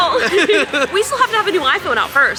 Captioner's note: both laughing